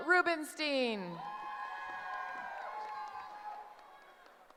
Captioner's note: cheering